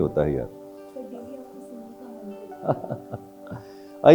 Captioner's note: audience Speaking; laughing